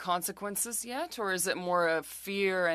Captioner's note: speaking French